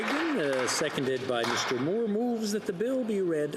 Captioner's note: some Applause; speaking French